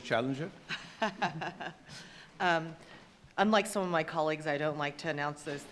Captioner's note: laughing